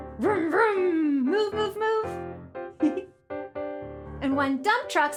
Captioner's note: giggles